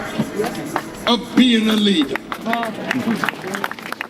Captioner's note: applause